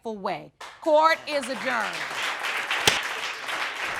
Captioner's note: gavel bangs